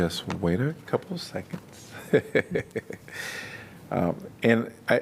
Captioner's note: laughter